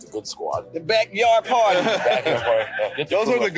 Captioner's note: everyone laughing